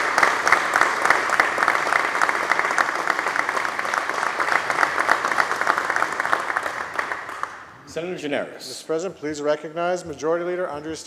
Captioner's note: applause